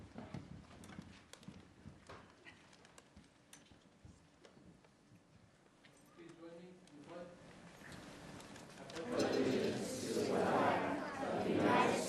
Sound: moment of silence

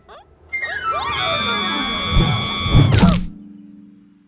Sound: screams; clunk

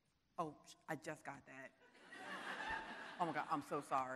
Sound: audience laughing

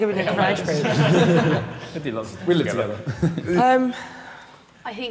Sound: all laughing

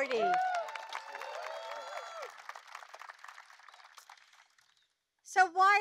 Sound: applause

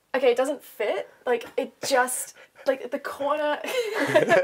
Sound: laughter

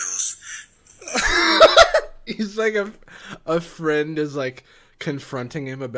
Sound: laughs

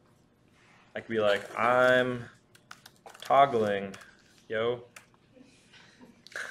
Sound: laughs

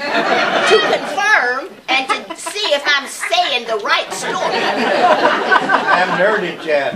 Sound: laughter; laughter

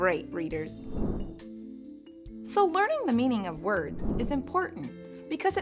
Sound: air whooshing

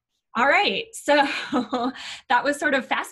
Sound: giggling

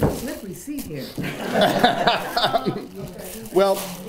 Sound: laughter

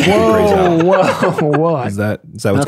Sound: shouts

